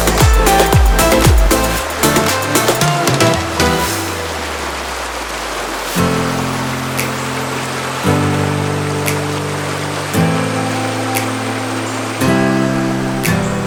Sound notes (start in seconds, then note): 0.9 sound of river running